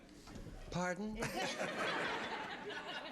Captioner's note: laughing